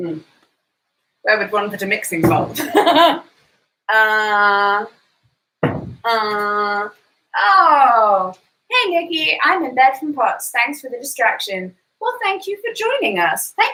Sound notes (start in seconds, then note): 2.6 laughs